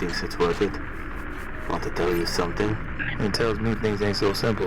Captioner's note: radio